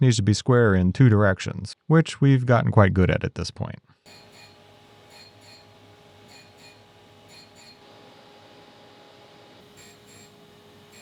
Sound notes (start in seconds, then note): 4.3 metal clanking; 5.0 machinery whirring